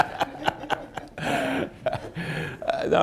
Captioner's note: laughs